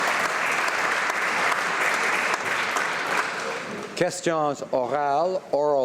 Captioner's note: applause; some applause